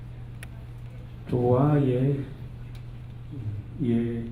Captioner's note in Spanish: Habla en lengua indígena